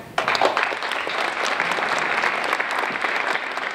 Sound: applause

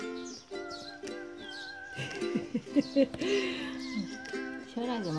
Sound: laughs

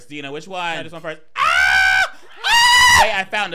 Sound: screaming

